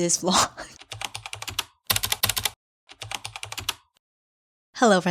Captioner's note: typing